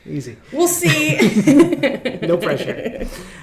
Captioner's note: group chuckling